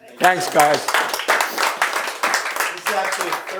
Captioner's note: applause